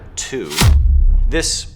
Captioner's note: air thumping